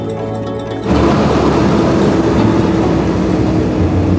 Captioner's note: truck whirring